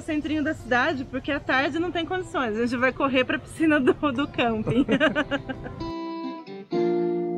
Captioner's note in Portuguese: risadas